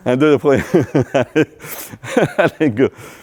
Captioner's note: laughter